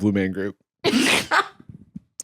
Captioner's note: laughs